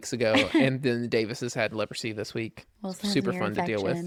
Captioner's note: laughs